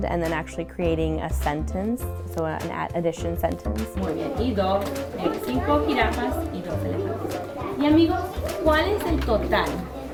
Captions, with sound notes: and then actually creating a sentence, so, an addition sentence. (speaks in foreign language)